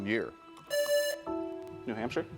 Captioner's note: buzzer rings